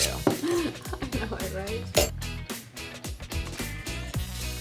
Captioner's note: laughs